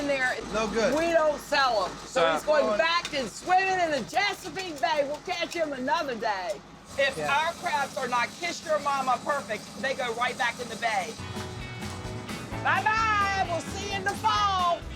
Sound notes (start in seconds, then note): none